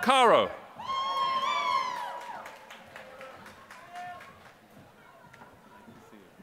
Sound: applause

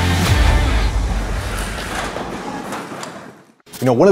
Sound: door Closing

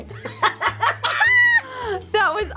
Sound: laughing

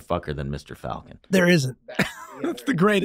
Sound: Charlie laughs; laughing

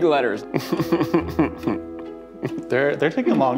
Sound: chuckling

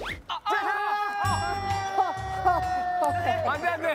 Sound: argh

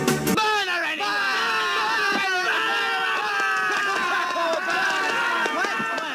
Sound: multiple people yelling "Burn her!" & "Burn!"

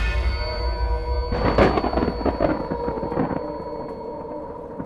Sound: scary noises; thunder

